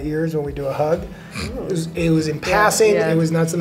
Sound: snickers

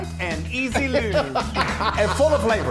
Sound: laughs

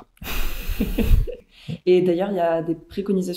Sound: laughs

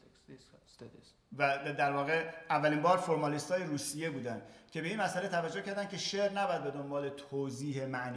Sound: speaking in farsi

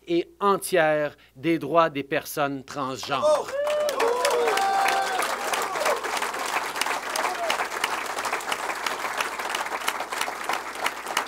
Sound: applause

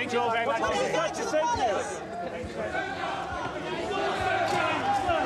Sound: reporters yelling

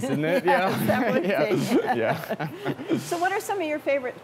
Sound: laughs

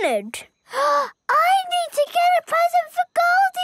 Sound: gasps

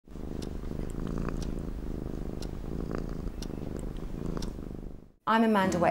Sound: cat purring

